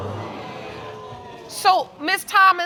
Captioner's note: audience exclaiming